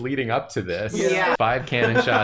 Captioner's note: chorus of "Yeah"s